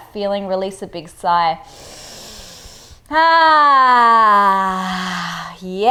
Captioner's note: inhales breath